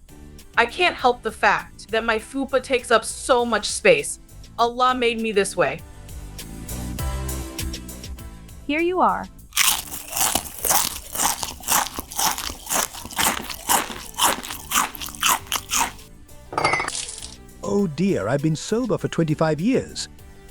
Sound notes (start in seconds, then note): 9.5 munching sandwiches; 16.5 wine splashing